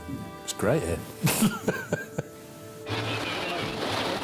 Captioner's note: laughs